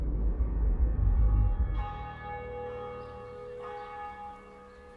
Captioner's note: church bells